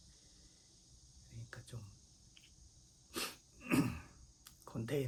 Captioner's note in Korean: 목을 가다듬음